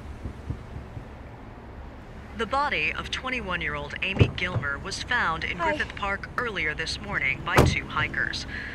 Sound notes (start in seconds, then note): 0.1 banging; 4.0 car door opens